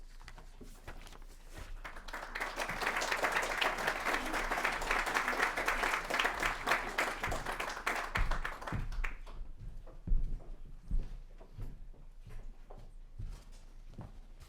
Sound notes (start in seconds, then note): 1.6 applause